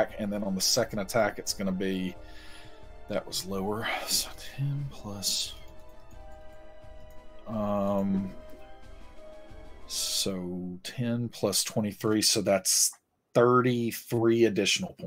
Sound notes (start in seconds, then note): none